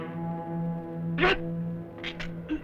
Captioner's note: non-english speech